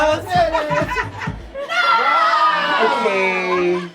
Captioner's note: laughing